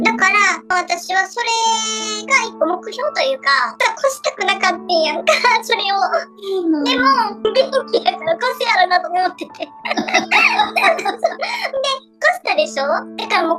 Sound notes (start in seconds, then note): 9.7 laughs